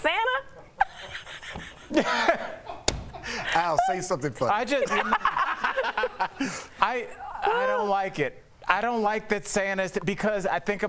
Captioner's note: laughter